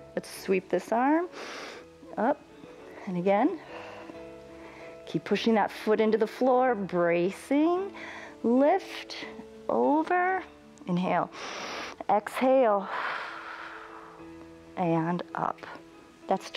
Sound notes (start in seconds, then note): 1.3 inhales; 12.8 exhales; 12.8 inhales